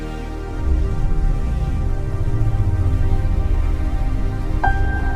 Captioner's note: spacecraft whirring